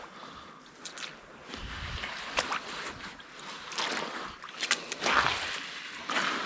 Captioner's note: leaves crunching